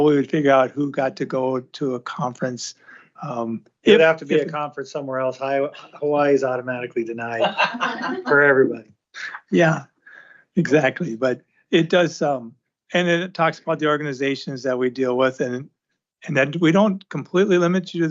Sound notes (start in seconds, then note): 7.0 laughter